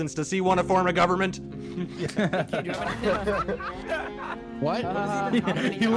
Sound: everyone laughs

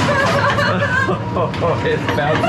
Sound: laughs nervously

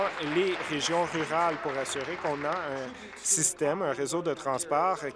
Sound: some Applause

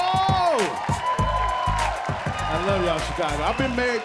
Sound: cheers and applause

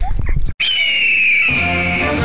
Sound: hawk screeching sound effect

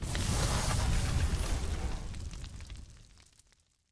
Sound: whoosh

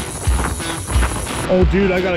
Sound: reel clicking

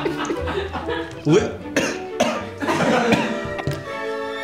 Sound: chokes

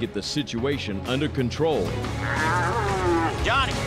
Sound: cow moos

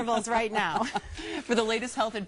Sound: laughs

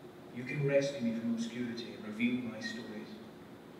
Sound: recording playing

